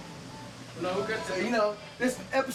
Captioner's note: indistinct conversation